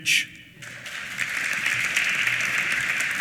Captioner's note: applause